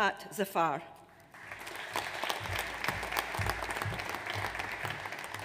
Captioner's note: audience applauds